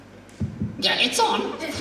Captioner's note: taps mic